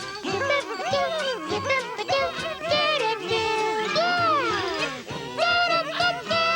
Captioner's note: all humming theme